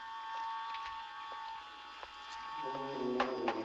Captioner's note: knock on door